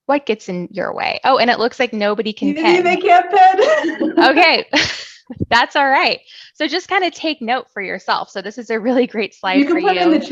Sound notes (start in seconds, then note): 2.4 laughs